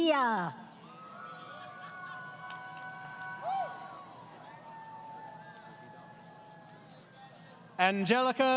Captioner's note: crowd Cheering